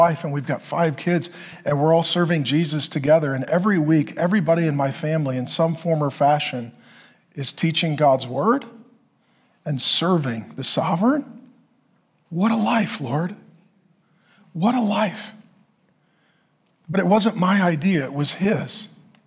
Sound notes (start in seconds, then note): none